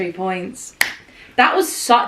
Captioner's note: hands clap